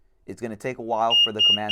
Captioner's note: beeps